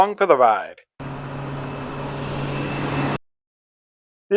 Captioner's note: traffic Noise